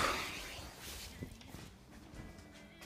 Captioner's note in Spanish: resopla